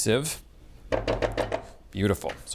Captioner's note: spatula thudding